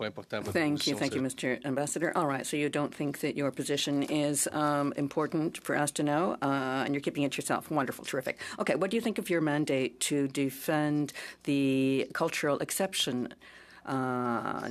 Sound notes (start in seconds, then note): 0.8 speaking in French